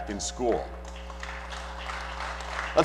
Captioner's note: applause